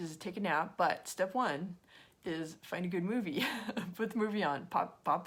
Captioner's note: chuckles